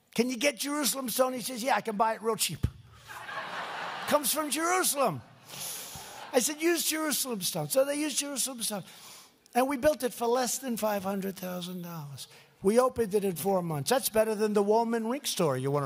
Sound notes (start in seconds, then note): 3.0 laughter